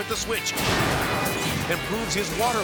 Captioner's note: metal clanging and crashing